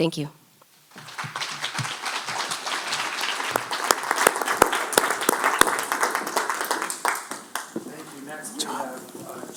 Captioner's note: applause